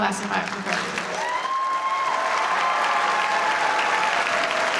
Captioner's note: audience cheering